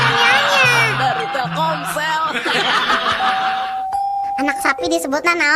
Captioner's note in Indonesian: tertawa